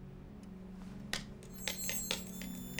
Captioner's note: keyboard clacking